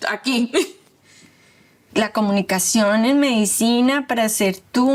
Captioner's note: speaking Spanish